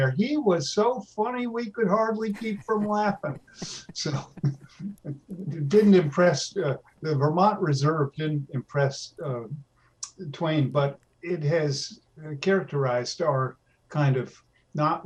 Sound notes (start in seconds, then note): 1.7 laughs